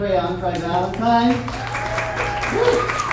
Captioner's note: audience applauds